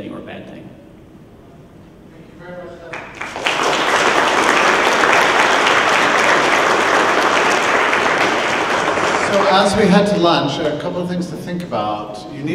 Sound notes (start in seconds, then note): 0.5 clapping